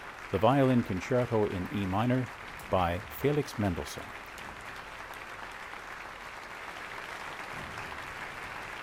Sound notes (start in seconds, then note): 3.1 applause